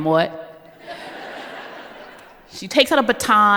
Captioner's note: laughter